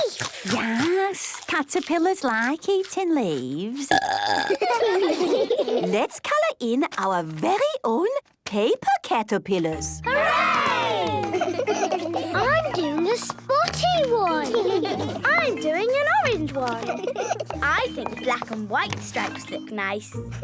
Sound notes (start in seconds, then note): 3.8 burping; 4.4 children giggling